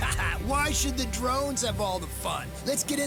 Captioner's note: laughs